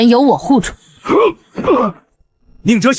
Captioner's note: cough